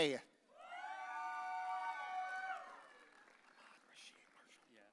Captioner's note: audience cheering